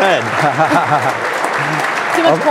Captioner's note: laughing